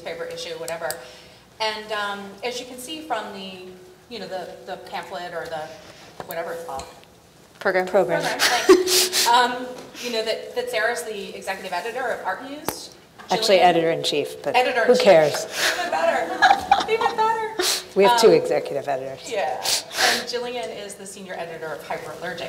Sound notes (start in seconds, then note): 15.5 laughs